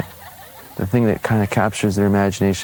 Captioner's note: kids laughing